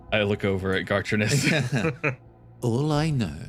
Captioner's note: chuckles